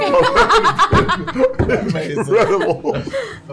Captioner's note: laughter